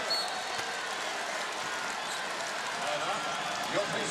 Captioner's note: whistle blows